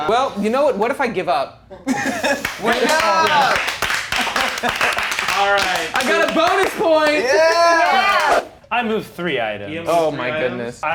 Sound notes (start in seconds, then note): 1.8 movers laughing; 2.4 movers clapping